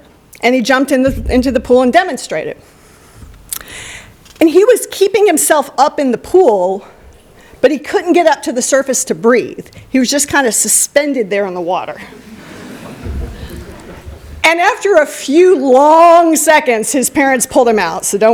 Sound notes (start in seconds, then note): 12.2 laughter